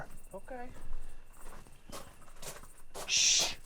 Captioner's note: footsteps crunching